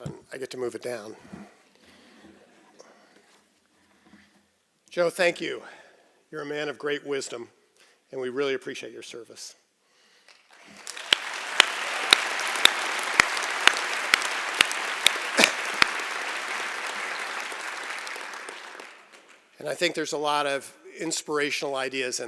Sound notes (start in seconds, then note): 10.3 applause